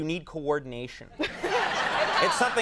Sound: Molly and audience laugh

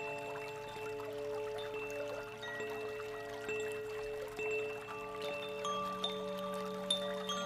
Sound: bells lightly chiming; water babbling

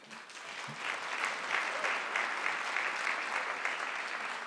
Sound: audience clapping

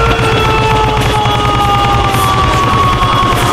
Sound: long scream

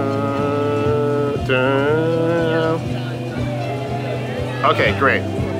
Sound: humming

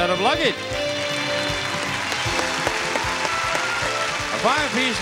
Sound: audience clapping

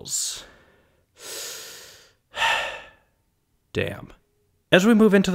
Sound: sigh

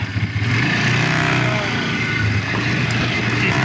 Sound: engine roars

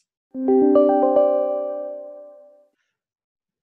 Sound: computer chiming

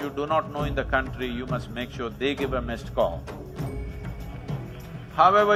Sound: laughter/Applause

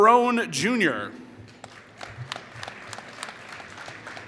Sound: applause

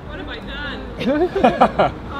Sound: laughter; groans

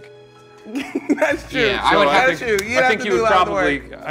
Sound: laughs

